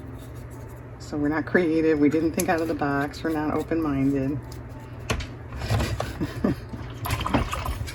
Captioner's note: laughs